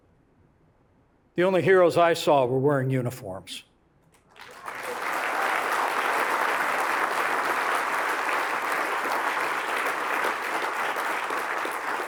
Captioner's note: applause